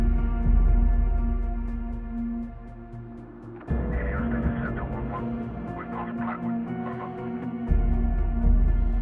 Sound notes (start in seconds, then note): 4.0 radio